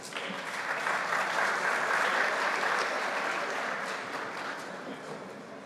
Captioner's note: audience applauds